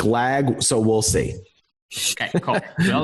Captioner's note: laughs